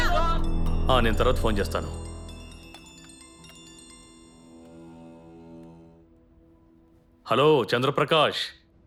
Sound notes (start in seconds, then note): 2.1 phone rings